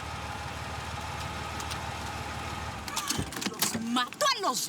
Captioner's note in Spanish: Ruido del motor